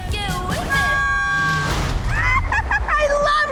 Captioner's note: both screaming